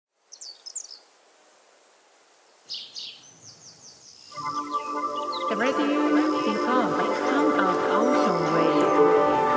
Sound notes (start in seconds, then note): 0.0 birds chirping